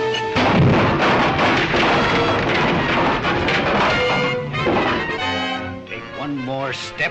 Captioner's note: wood clattering; dramatic music continues